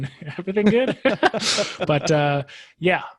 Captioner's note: laughs